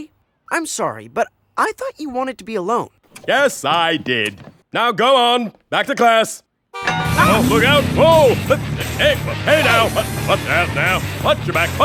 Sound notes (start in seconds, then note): 7.6 stammering